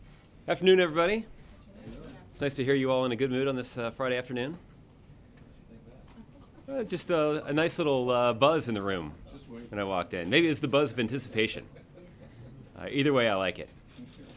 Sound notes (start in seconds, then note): 11.6 laughter